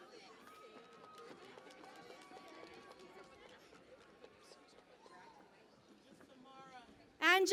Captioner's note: cheering and Applause